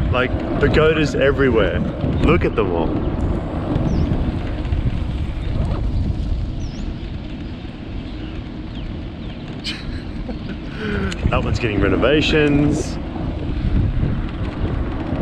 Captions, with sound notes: Like, pagodas everywhere, look at them all. (zipper zipping) (laughing) That one's getting renovations.